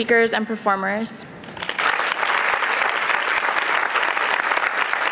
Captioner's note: applause